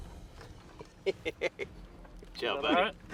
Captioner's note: laughs